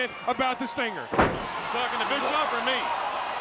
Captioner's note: wrestlers thudding on ring